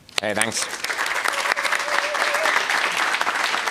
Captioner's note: applause